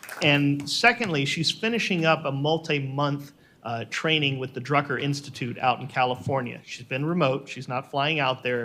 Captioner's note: applause